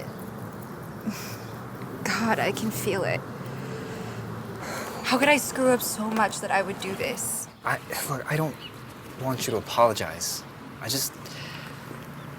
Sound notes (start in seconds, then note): 0.3 exhales; 4.5 sighs